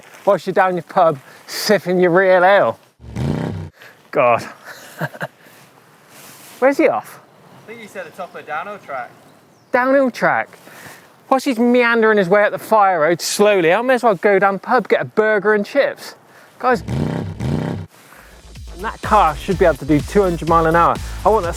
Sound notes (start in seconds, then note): 3.0 engine revs; 4.5 chuckles; 16.8 engine revs